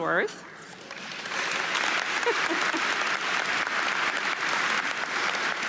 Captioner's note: audience applauding